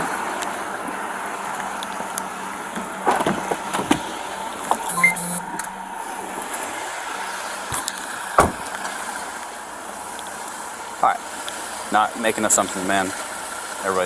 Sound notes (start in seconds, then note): 3.0 car door opening; 4.8 police radio beeping; 8.3 car door slams